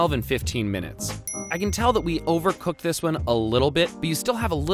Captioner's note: dings